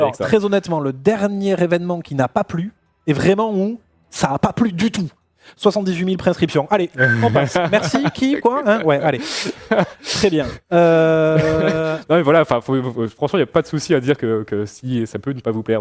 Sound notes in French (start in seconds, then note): 7.0 rires